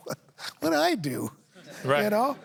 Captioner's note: chuckles